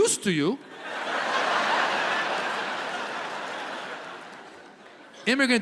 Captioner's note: audience laughs